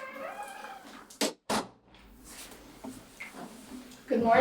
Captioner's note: door creaks; door closes